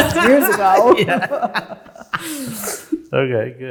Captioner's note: both chuckling